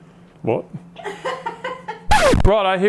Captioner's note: laughing